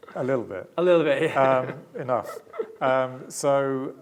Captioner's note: laughing